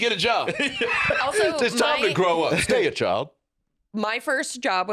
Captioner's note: laughs